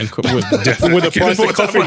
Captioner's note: laughing